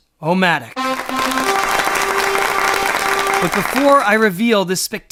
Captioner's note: applause